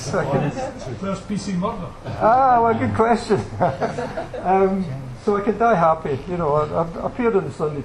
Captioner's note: where's PC Murdoch? – laughter